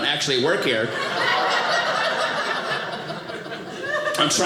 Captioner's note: audience laughing